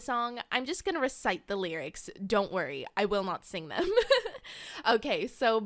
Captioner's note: giggle